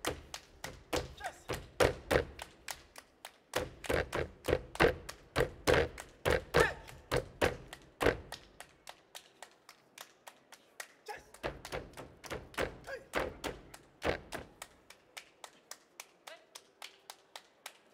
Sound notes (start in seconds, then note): 0.6 hands clapping and feet stomping; 8.7 hands clapping; 11.5 hands clapping and feet stomping; 14.9 hands clapping